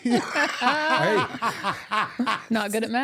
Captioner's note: laughing